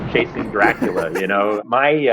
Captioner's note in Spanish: risas